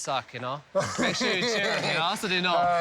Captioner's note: laughing